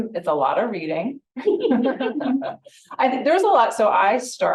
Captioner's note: people laughing